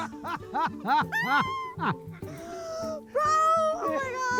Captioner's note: all laughing